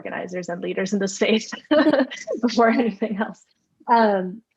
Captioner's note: laughter